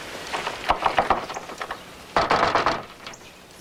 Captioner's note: rapping on door